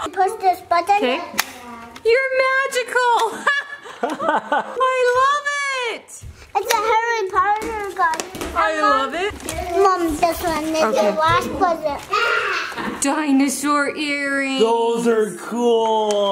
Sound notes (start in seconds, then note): 1.5 toy clicks; 4.0 laughs